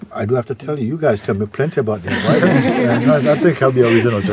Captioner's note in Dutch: gelach